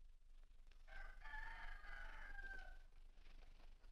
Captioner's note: rooster Crows